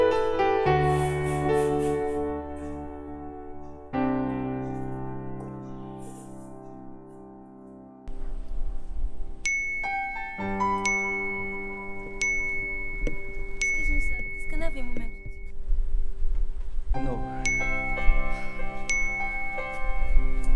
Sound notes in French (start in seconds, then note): 1.1 sobs; 9.5 cloches de notification